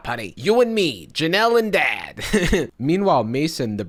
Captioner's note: chuckles